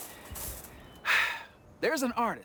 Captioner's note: LeVar sighs